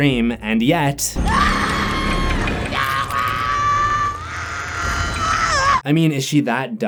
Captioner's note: screaming